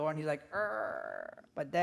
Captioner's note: door creaking